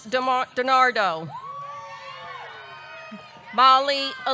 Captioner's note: audience cheering